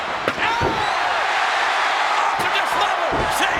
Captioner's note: crowd cheers